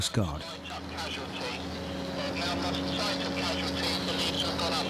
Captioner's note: radio